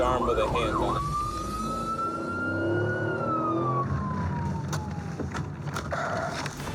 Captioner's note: sirens wailing